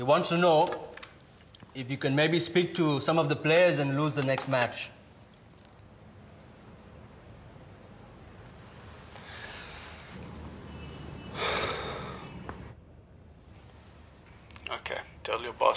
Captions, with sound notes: He want's to know if you can maybe speak to some of the players and lose the next match. (sighs) - Okay.